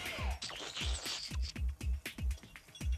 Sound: slurping

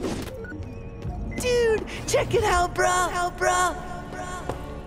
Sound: echoing

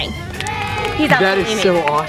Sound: crowd cheering

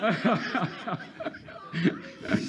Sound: laughing

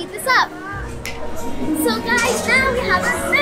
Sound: snap

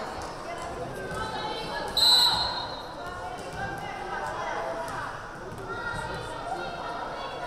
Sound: whistle blaring

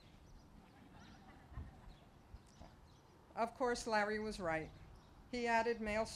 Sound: laughter

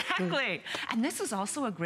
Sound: laughter

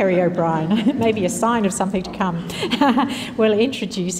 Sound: chuckles

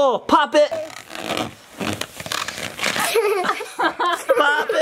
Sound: balloon squeaks

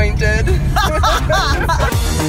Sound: laughing; upbeat music

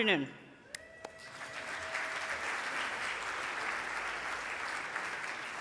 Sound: audience applauding

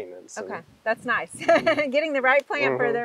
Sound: laughing

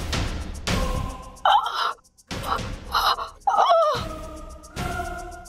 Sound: groaning

